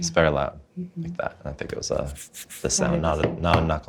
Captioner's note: rubbing hands; knocking on table